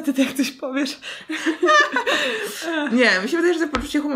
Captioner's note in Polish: śmiech